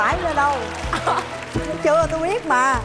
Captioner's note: chuckles